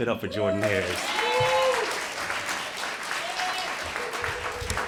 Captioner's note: applause